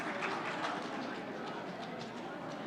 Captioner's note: applause